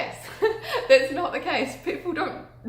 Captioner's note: laughs